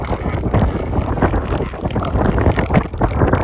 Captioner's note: elephant seals snorts and squawks